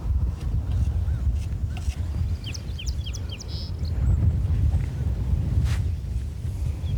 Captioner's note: birds chirping